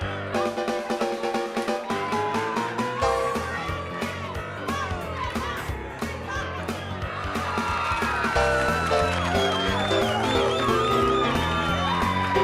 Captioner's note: crowd cheering